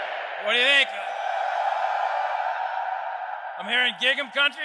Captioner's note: crowd